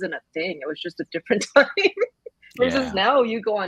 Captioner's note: laughs